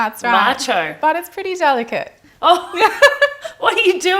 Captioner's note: laughs